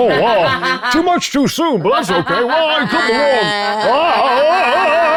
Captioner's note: players laughing